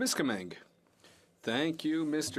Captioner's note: speaking FRENCH